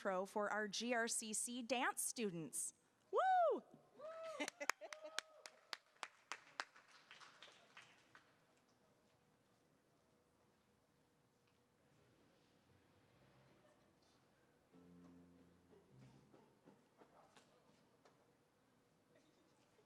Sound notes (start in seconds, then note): 4.0 scattered applause; 4.3 laughing